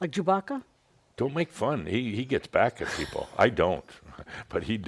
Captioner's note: chuckles